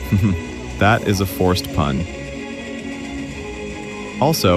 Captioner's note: laughs